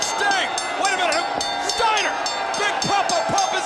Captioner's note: bell ringing